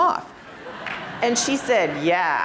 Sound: laughter

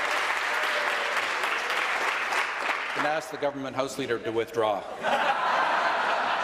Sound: applause

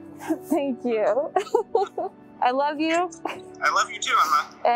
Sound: laughing

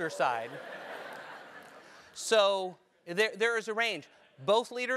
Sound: laugh

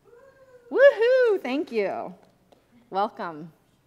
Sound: people cheering

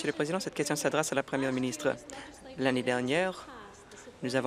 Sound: applause

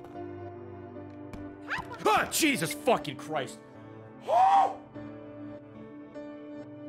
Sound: screams

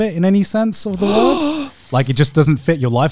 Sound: gasping

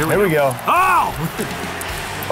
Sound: yells

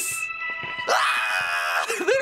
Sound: excited scream

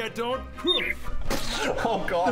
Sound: splat!

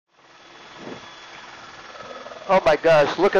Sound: helicopter engine whirring

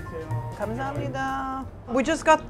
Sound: speaking in Korean

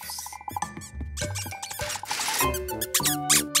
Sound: squeaking

